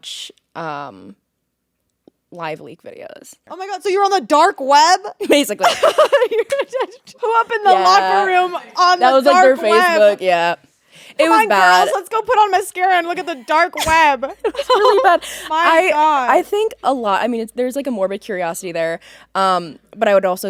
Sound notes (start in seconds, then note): 5.6 both laughing